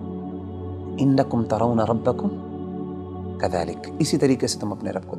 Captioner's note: Arabic